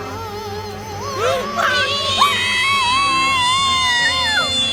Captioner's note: screaming